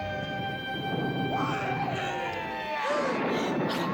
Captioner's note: Grovelhog screaming; thunder rumbling; gasping